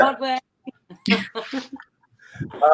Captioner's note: laughing